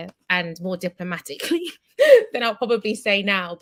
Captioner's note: laughs